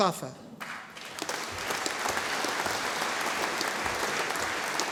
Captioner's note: audience applauding